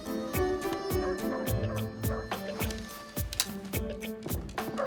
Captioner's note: dogs barking